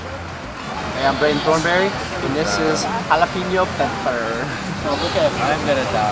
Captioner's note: voiceover